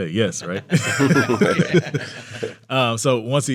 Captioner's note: all laughing